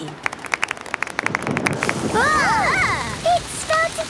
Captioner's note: exclamations; thunder